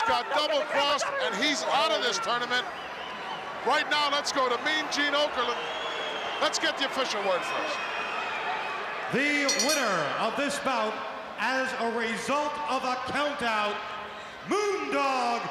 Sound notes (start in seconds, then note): 9.4 bell rings